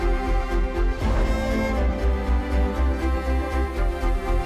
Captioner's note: whooshing